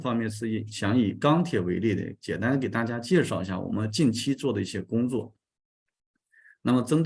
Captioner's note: continues to speak in Chinese